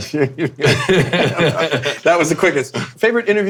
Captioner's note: men laughing